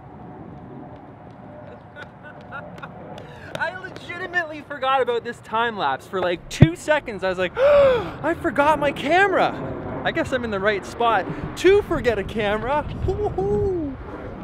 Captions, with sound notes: (laughing) I legitimately forgot about this timelapse. For like, two seconds, I was like, (gasp) "I forgot my camera!" I guess I'm in the right spot to forget a camera.